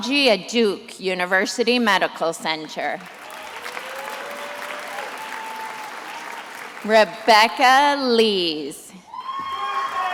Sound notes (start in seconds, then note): 2.9 attendees applauding